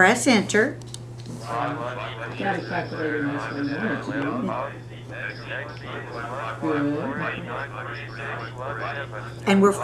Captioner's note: multiple calculator voices